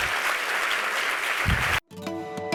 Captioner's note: applause